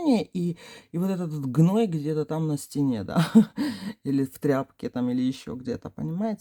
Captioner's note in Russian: смех